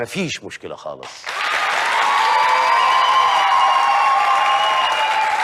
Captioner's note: with some screams